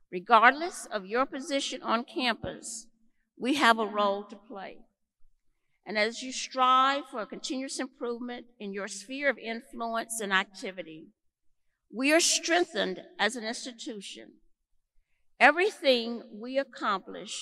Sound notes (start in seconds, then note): none